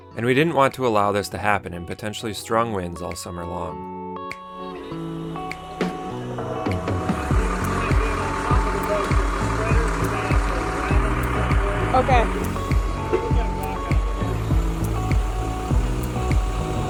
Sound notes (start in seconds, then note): 4.2 bright upbeat music; 6.4 murmurs